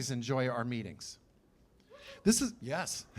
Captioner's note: cheers